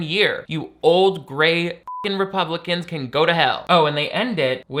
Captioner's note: beep